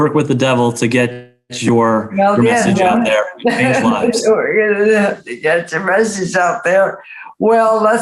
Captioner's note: laughs